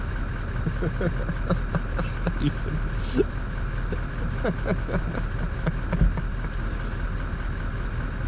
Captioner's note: slightly hysterical laughter